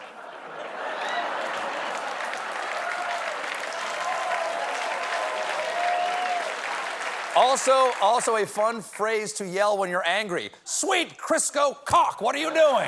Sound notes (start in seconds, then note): 0.0 laughter; 0.8 applause